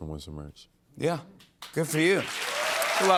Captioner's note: cheers and applause